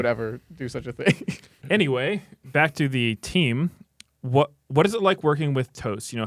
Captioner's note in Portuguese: risos